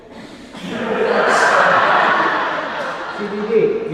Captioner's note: audience laughing